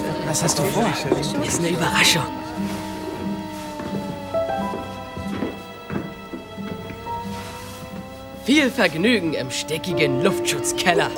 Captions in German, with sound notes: Was hast du vor? - Ist eine Überraschung. (Sirene im Hintergrund, angespannte Musik) Viel Vergnügen im stickigen Luftschutzkeller.